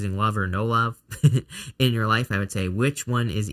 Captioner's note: laughs